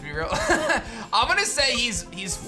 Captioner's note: chuckles